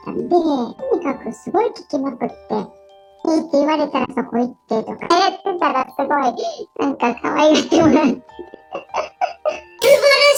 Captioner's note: laughs